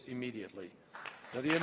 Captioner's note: applause